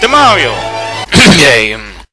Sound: cough cough

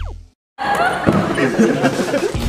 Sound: laughing

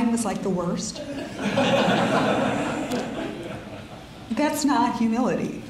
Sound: audience laughs

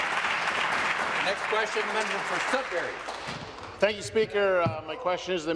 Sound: applause

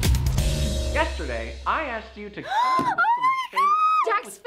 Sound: industrial intro; gasps

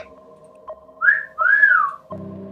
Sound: whistles

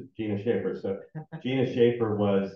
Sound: chuckling

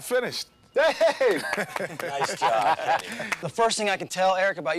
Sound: clapping

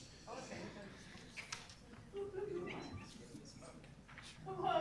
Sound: group chatter

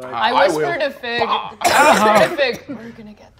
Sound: groans weakly

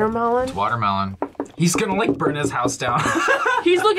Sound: laughs

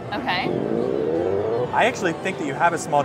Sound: machine zips

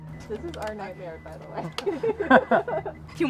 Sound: both laugh

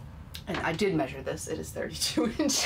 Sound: laughing

